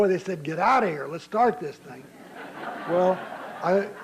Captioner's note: laughter